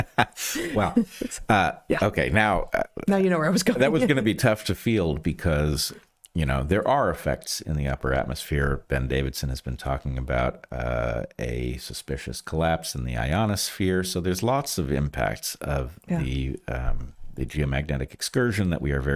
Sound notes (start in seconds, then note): 0.0 laughing